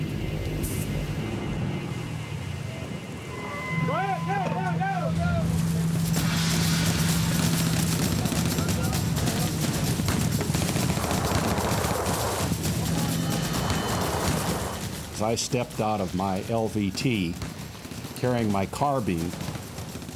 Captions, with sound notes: [men shouting] [gunfire] As I stepped out of my LVT, carrying my carbine,